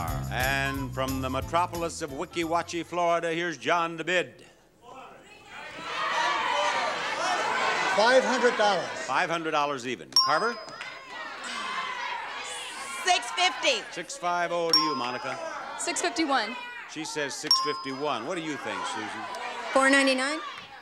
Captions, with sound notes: And from the metropolis of Weeki Wachee, Florida, here's John to bid. (audience shouts numbers) 500 dollars. 500 dollars even. (bell dings) Carver. (audience shouts numbers) 650. Six-five-oh. (bell dings) To you Monica. 651. She says 651. (bell dings) What do you think Susan? 499.